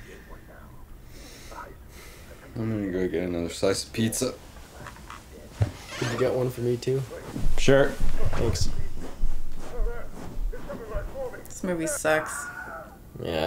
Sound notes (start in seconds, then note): 9.6 movie plays in background